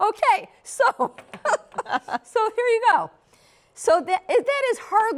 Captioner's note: laughs